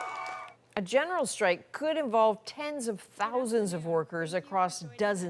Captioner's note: cheers and Applause